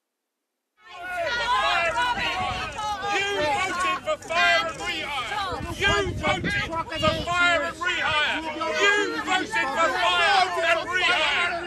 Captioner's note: strikers Chanting